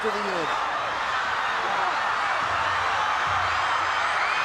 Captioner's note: crowd cheering